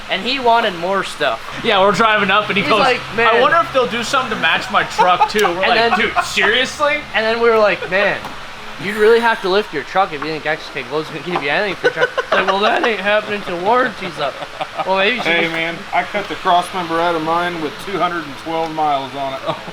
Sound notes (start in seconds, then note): 5.7 laughing; 11.1 laughing